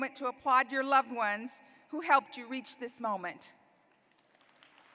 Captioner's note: applause